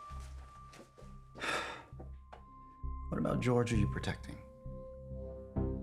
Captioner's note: sighs